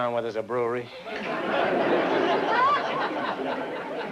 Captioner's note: laughter